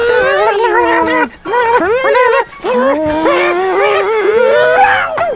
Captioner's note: puppet gabbles